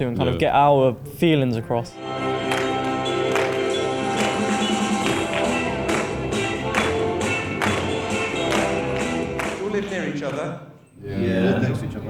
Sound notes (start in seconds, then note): 2.1 rhythmic clapping; 2.3 upbeat tempo